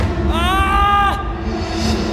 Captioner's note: male scream